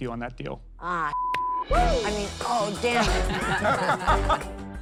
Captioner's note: beep; laughing